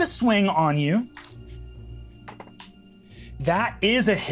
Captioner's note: tense music; dice rattling